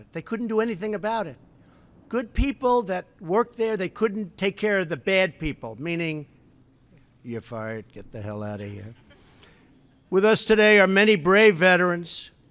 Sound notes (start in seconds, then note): 8.9 laughter